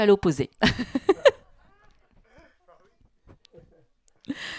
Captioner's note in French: elle rit